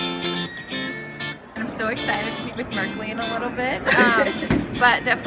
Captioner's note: laughing